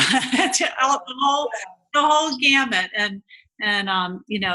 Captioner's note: laughing